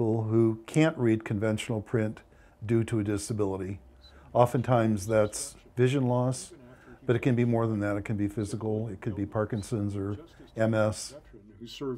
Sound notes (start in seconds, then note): 4.5 male radio voice